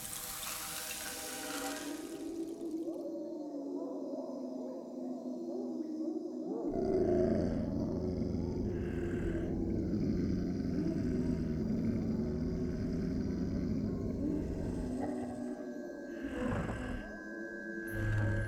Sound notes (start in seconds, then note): 0.0 salt blows around; 9.6 growling